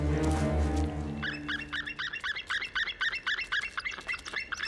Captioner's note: eagle calling